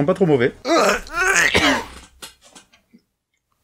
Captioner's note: retches